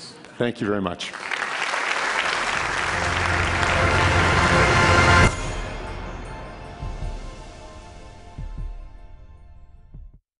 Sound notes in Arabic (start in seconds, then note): 1.0 تصفيق